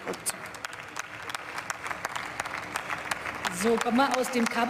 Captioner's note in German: Beifall